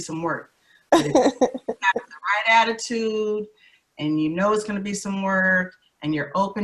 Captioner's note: laughs